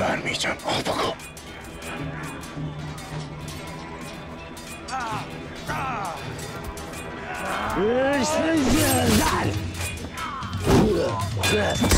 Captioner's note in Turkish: Vuruşma ve kılıç sesleri